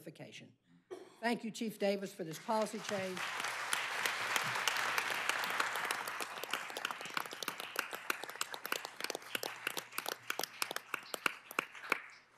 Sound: applause

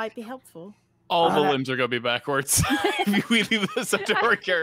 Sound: laughs

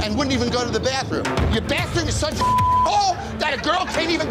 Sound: beep

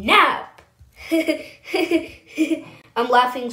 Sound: laughing

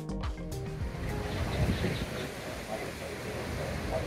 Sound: fountain

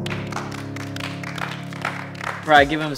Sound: applause

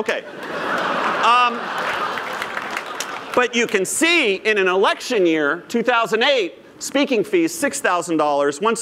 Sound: laughter

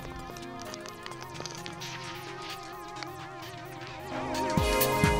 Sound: footsteps crunching

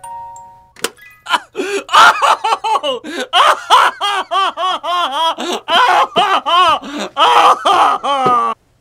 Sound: crying

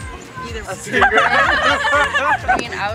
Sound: laughter

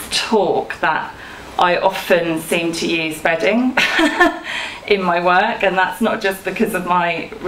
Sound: she laughs

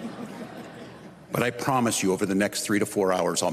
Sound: laughter

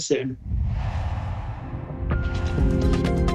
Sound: air whooshing; upbeat music

